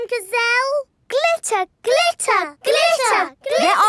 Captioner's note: chanting